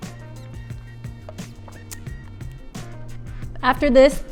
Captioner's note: drinking juice